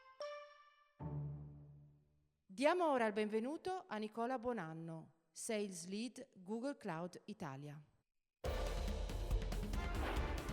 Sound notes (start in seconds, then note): 4.5 speaking italian